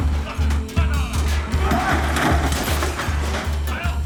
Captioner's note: table thudding; items crashing; men yelling; low suspenseful music continues